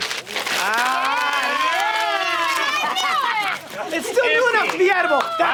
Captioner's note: everyone yelling and cheering